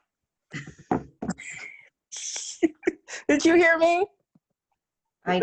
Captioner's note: laughs